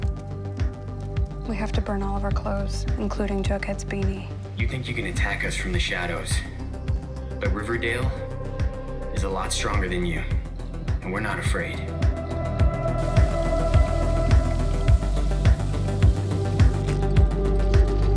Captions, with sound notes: - We have to burn all of our clothes, including Jughead's baby. - You think you can attack us from the shadows, but Riverdale, is a lot stronger than you, and we're not afraid. (water runs) (upbeat music)